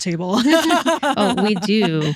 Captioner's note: laughing